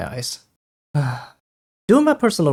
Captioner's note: sigh